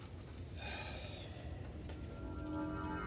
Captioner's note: sighs